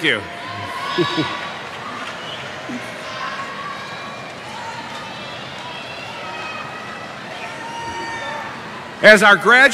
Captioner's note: cheering